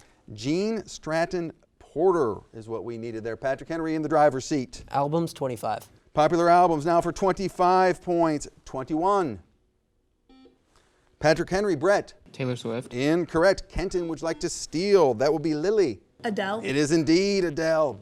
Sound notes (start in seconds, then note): 10.3 buzzer sounds